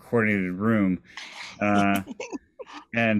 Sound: chuckles

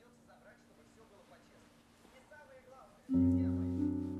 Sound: speaking in a foreign language; gentle instrumental music

